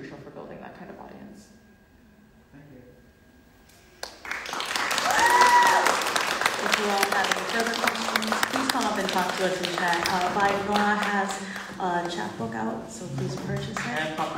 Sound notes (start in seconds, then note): 4.2 audience clapping; 4.3 audience cheering